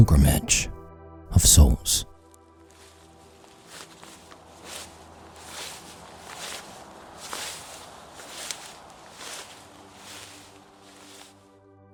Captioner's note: walking in long grass + door knock